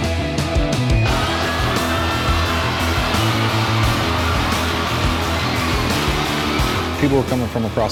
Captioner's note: rock music; cheering